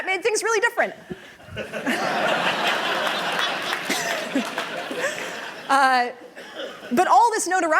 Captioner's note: laughter